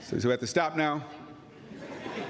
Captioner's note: laughter